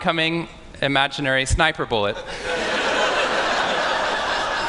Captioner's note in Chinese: 笑聲